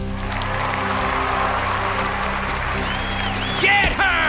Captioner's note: applause